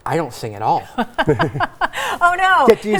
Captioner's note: laughs